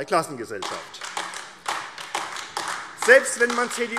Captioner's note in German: Beifall AfD